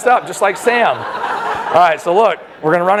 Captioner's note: laughter